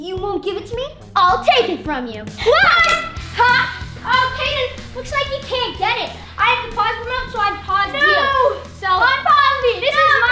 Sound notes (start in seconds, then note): 2.4 button clicks; 2.4 yell